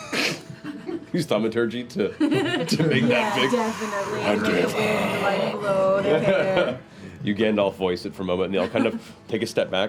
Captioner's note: low-pitched